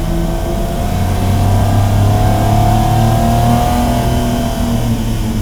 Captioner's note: car revving continues